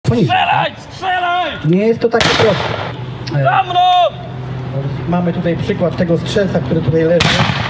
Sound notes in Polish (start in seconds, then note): 2.2 Odgłosy bitwy, strzały